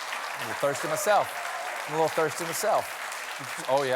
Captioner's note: applause